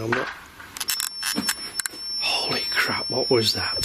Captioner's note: banging